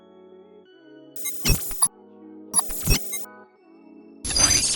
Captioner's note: glitching